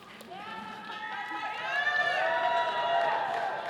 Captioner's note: all cheering